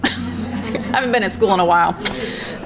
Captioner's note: background chattering